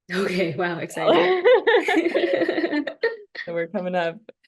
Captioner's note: laughter